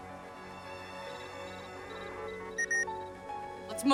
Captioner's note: beeps